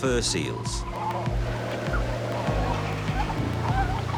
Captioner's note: seals barking, grunting